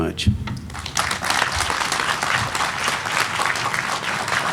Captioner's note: applause